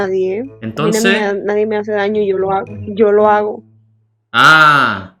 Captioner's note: Spanish; Spanish